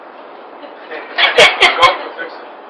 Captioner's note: laughter